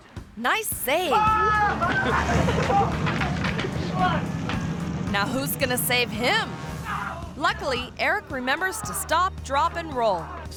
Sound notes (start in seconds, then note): 1.2 screaming